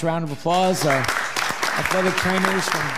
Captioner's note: audience applauding